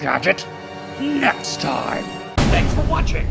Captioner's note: fist slam